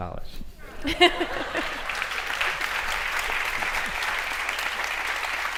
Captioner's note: audience laughs and applauds